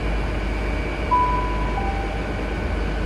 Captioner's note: announcement Sound